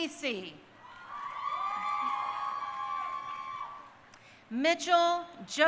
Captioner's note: crowd cheering